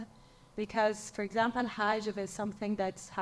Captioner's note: speaks in foreign language